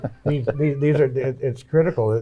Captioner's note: laughs